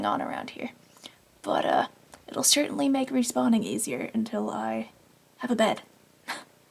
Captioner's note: laughs